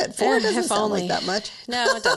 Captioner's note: laughs